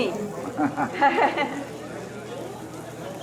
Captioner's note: chuckles